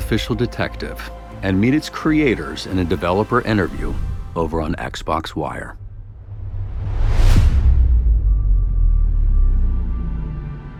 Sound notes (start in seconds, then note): 5.5 deep rumbling tone